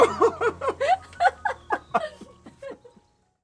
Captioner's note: both laughing